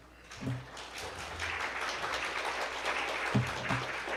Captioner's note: audience applauds